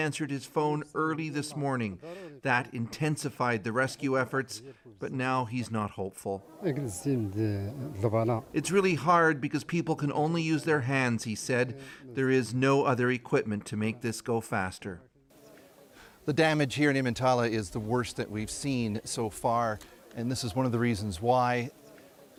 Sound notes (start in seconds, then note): 11.1 speaking alternate language